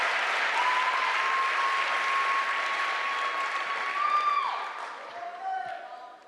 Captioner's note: applause